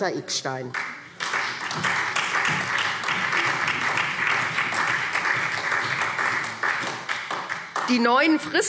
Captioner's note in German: Beifall SPD